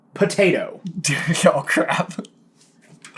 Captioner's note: laughs nervously